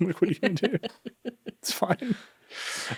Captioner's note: chuckles; chuckling